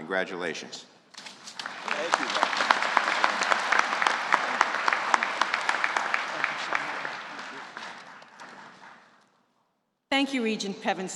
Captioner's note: applause